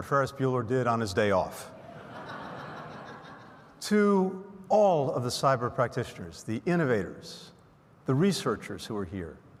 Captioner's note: laughter